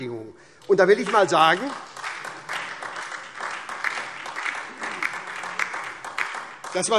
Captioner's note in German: Beifall SPD und vereinzelt DIE LINKE